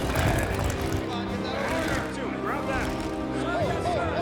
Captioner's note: soldiers shouting